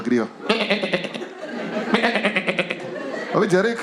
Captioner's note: bleats